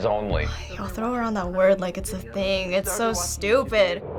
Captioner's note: sighs